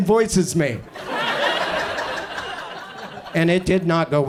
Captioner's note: audience laughs